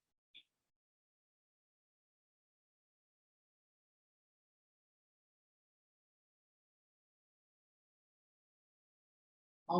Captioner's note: silence